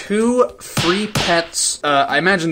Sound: smack smack

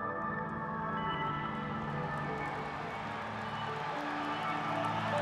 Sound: crowd cheering

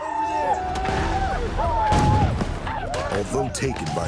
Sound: arikara war cries; gunshots

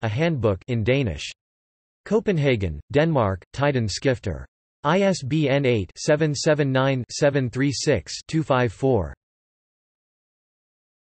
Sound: in Danish

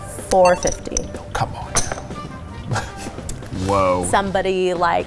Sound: laughs

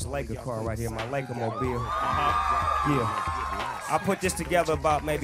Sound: applause

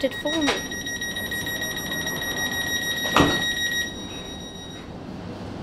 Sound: door chime

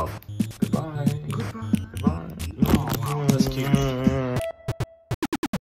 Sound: kissing noises

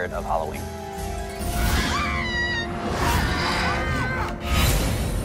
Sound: screams

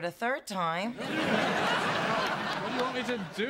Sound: laughter

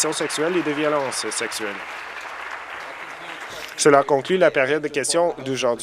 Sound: applause

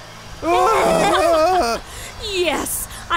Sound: shrieking

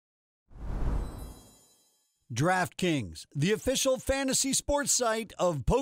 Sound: voiceover

